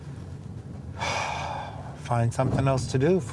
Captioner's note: sighs